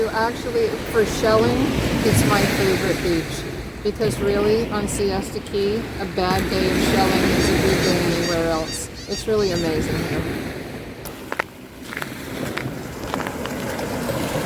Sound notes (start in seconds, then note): 6.9 seagull squawks; 11.8 feet crunch